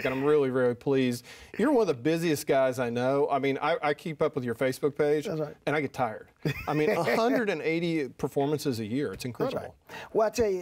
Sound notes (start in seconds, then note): 6.4 laughing